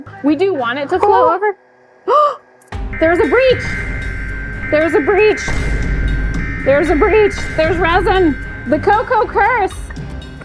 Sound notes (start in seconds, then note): 2.0 gasps; 4.1 alarms blaring